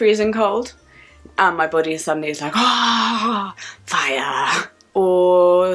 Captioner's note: screams